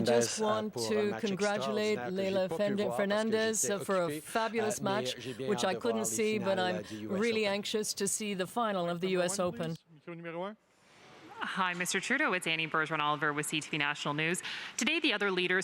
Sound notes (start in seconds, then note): 3.5 speaking French